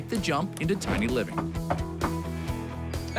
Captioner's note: knocking on door